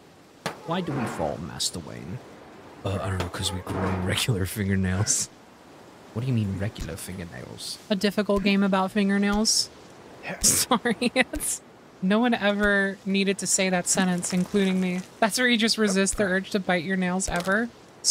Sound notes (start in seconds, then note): 0.5 Alfred From Batman Voice; 2.8 Batman Voice; 6.0 Alfred Voice